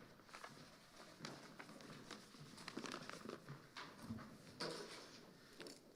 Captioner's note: papers rustling